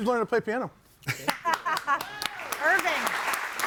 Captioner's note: audience applauding